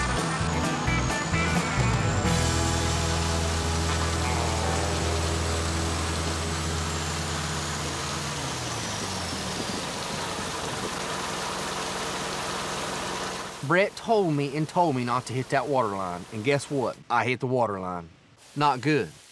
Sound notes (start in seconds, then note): 0.0 engine running; 2.0 water gushing; 8.4 engine stops; 9.4 water gushing